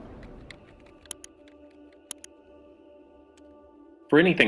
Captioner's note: mouse clicks